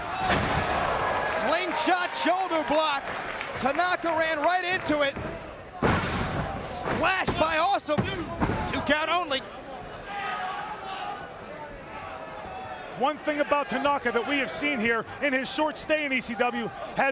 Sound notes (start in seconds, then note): 0.1 bodies slamming; 4.7 Mike Awesome thudding; 10.2 crowd exclaiming